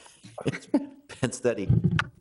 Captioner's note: councilors chuckling